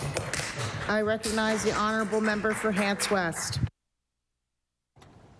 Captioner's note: applause